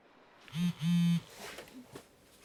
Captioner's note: cell phone vibrates